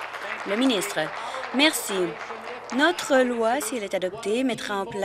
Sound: applause

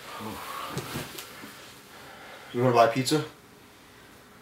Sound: breathes deeply

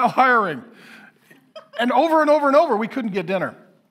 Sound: woman laughing

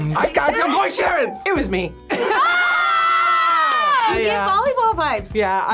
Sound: group screams

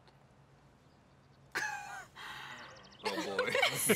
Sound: laughs

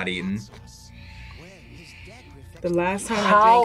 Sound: sighs

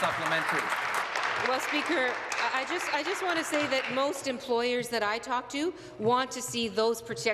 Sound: applause

